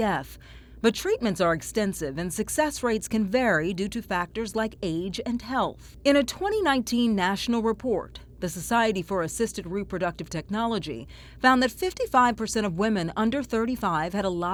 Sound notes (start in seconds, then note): none